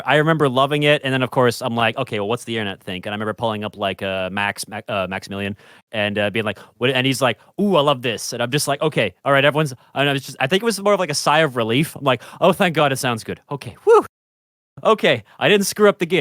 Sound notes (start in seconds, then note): 10.8 stammering